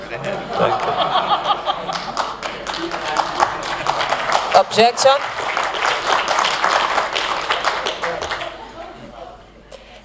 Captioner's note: applause